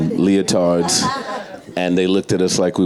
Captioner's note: audience and panelists laughing